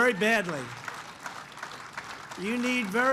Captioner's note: applause